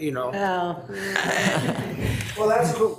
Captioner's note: attendees laughing